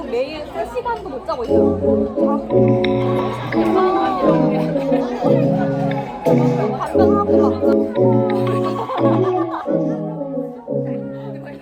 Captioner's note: happily chattering for ages — afterparty complete